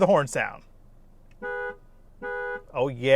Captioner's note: horn honking